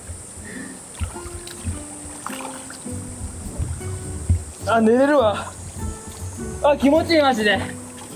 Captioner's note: laughs